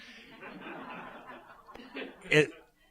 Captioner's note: laughter